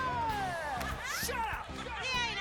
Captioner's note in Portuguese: Pat laughs